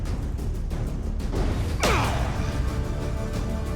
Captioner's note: grunt